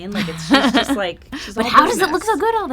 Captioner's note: laughing